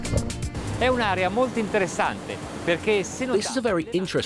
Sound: speaking in foreign language

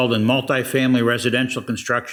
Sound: none

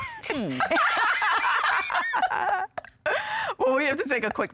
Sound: laughing

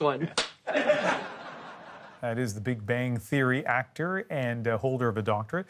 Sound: laughter

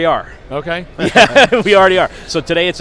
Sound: laughs

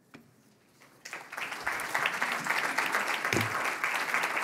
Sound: audience applauds

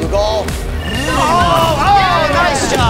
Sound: everyone shouts

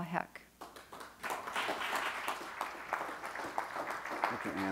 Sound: audience clapping

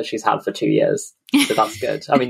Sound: laughs

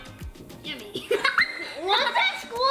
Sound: laughs

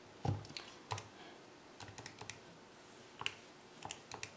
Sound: clicks

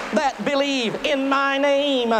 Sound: applause

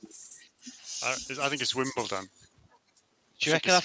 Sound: none

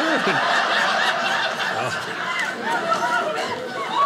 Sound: audience laughing

